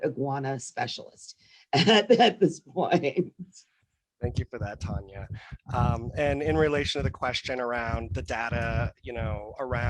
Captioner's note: laughs